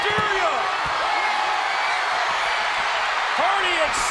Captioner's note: crowd cheers